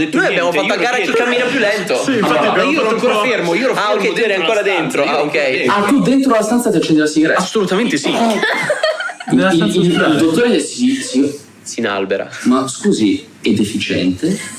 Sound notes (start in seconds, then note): 8.0 laughs